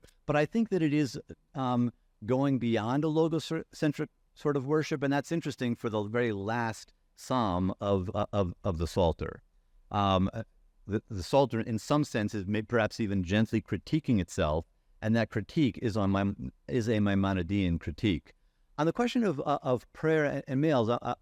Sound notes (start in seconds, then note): 16.7 faintly speaking